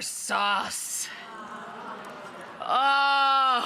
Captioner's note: audience gasping and awing; audience laughing